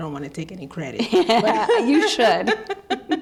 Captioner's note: laughing